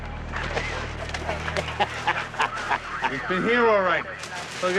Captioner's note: Sheriff laughing